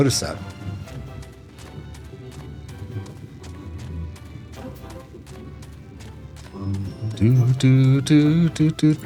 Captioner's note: humming